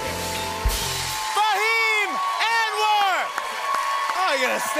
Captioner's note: cheers and applause